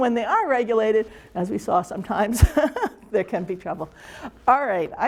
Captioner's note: chuckles